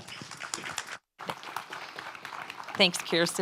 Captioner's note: audience applauds